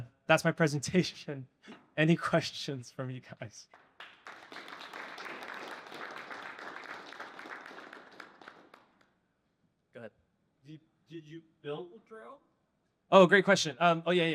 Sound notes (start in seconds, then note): 3.6 applause